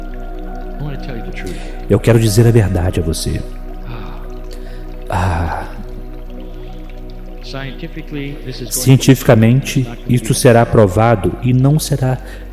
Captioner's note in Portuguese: Kryon suspira